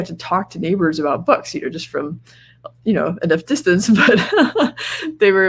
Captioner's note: laughs